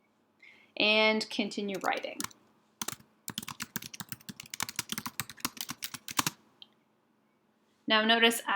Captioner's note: typing sounds